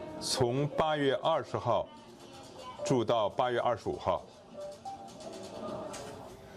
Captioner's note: non-english